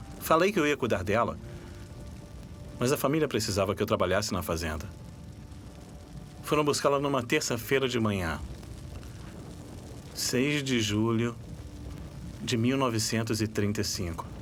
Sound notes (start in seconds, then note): none